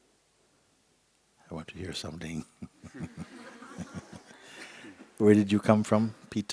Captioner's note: laughter